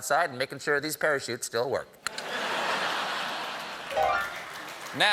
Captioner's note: piano riff; laughter; applause